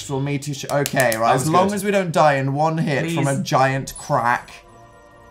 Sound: claps pleadingly

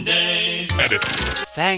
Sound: modulated voice

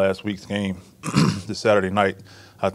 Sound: clears throat

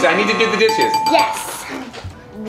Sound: bell dinging

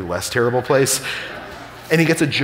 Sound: audience laughing

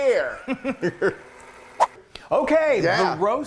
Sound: air whooshing

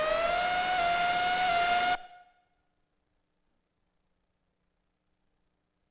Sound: sounds stop

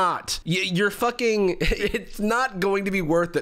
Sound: laughs

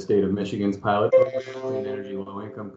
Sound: bell sound drowns out speaker

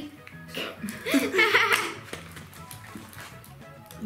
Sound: laughs

